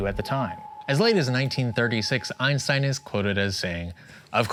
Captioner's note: ethereal chirp